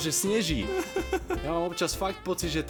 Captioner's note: laugh